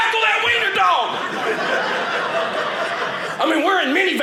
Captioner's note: audience laughing